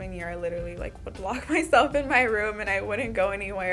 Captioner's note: chuckling